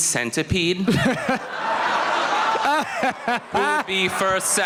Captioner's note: laughter